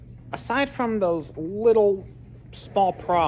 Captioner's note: none